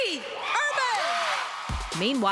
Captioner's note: cheering